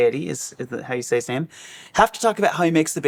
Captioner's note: none